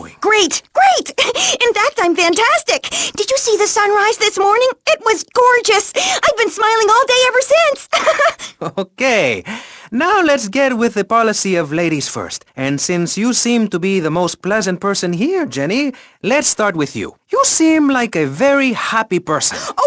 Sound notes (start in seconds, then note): 1.6 laughs; 7.8 laughs; 7.9 chuckling